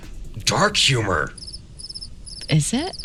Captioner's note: crickets play due to a failed reference